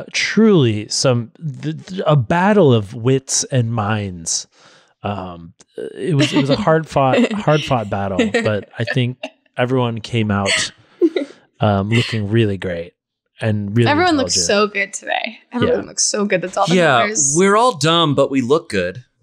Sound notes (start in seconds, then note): 6.0 laughs